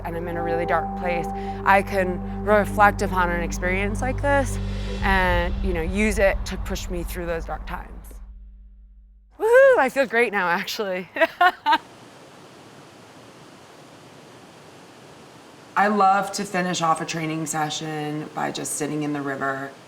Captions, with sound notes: and I'm in a really dark place, I can reflect upon an experience like this and use it to push me through those dark times. Woohoo! I feel great now, actually. [LAUGHING] [WATER RUSHING] I love to finish off a training session by just sitting in the river.